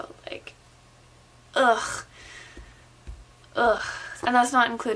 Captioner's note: groans